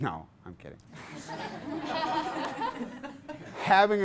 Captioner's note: class laughs